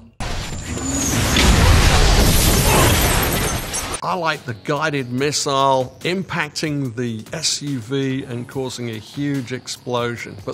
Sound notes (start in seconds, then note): 0.2 explosion booms; 0.3 missile whooshing; 2.3 glass crunching